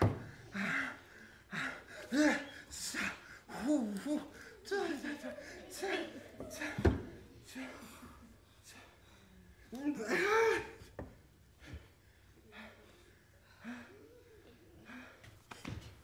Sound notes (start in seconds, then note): 3.4 guy muttering; 6.1 audience giggling; 9.9 guy groaning